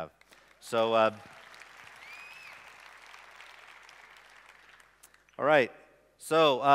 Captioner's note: applause